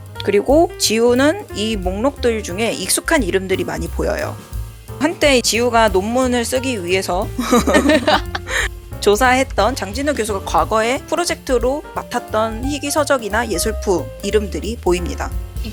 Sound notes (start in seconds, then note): 7.4 laugh